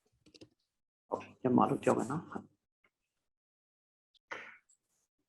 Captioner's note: speaking burmese